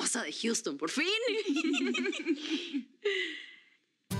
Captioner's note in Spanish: risas